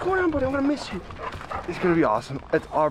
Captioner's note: dog panting